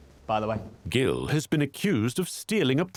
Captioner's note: voiceover